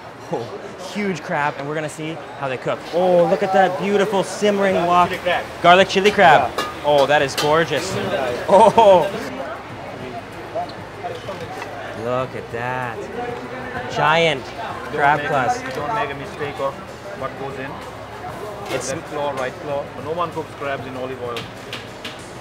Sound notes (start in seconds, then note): 9.0 laughs